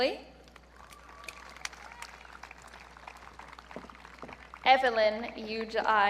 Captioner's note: audience clapping